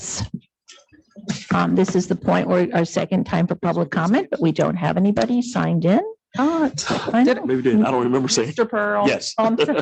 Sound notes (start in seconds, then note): 7.0 chattering